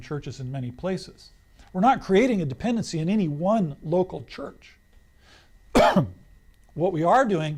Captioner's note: coughs